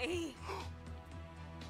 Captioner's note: gasps